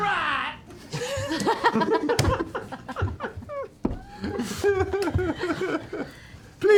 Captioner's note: laughter